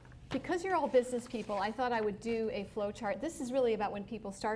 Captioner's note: none